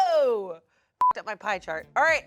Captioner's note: beep